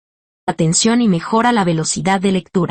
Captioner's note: spanish